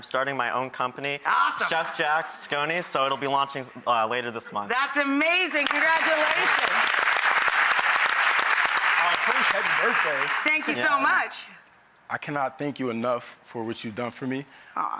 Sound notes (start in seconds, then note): 5.6 applause